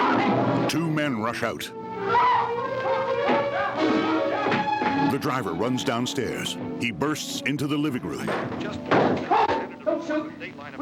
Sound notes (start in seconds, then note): 0.1 Barbra screaming; 1.8 Barbra yelps